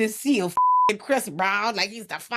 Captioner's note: beep